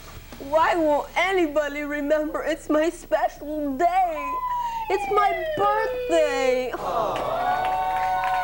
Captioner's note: slide whistle